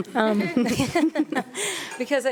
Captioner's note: panelist chuckling